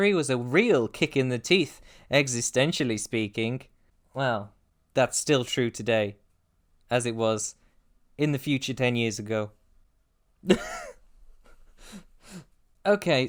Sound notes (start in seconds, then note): 10.4 ugly laugh